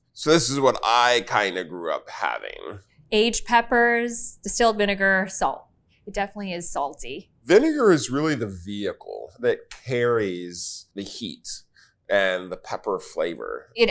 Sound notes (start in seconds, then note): none